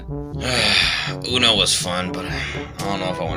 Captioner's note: sighs; sighs again